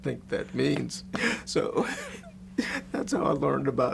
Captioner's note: laughs